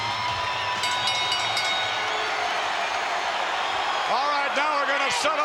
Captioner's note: bell dinging